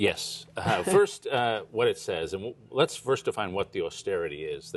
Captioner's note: laughter